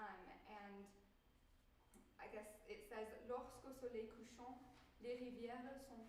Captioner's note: speaking french